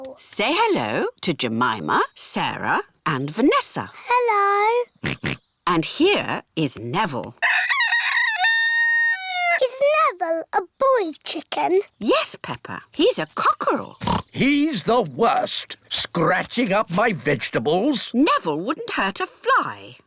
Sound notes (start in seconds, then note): 5.0 george oinks; 7.4 rooster crows; 14.0 oinks